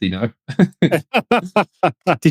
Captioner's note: laughing